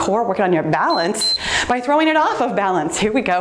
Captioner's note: timer beeps